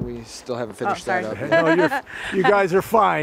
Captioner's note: laughing